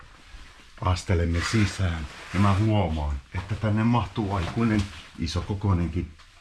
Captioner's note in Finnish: askelten ääniä